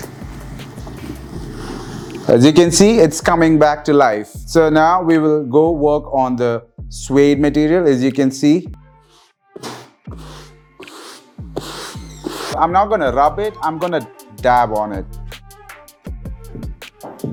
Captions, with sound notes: As you can see it's coming back to life. So now we will go work on the suede material as you can see [Brushing sound] I'm not gonna rub it, I'm gonna dab on it.